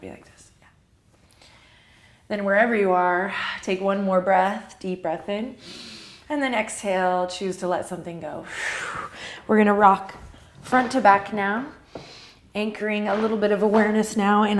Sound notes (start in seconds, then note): 5.6 inhale; 8.5 deep exhale